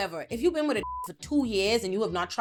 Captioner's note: beep